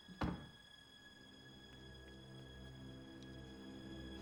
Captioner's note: door thuds